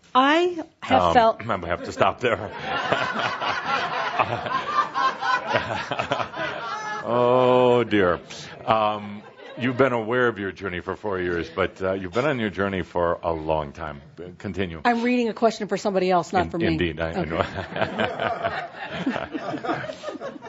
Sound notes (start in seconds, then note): 1.5 laughter; 17.1 chuckles and audience continues laughing